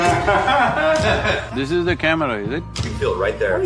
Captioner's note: few laugh